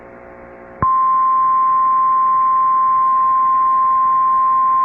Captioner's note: 1050 HZ tone